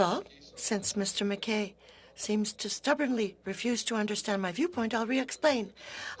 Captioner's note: speaking French